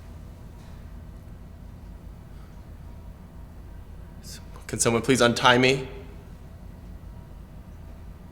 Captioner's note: none